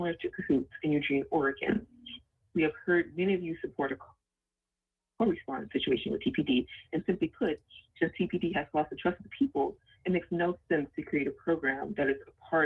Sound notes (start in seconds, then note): 10.1 ~interference~